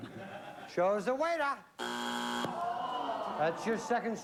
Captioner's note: buzzer